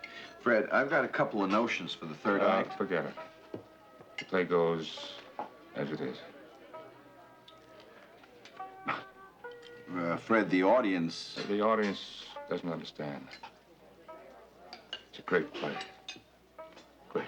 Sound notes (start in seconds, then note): 8.4 scoffs; 8.7 laughs